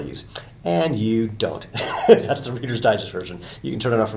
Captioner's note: chuckles